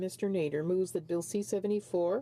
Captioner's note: speaking French